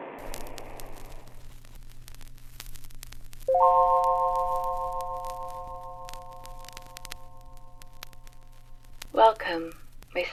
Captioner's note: static; chiming tone